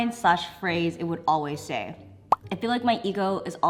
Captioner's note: bubble pops